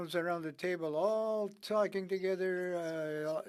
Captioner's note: speaking French